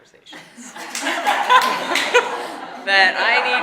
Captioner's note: audience applauding and laughing